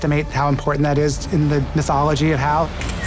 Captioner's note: camera shutter clicks